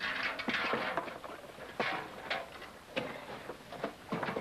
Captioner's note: buckets clunking